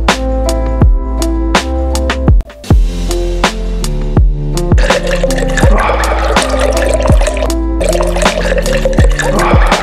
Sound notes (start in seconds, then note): 4.8 wine glugging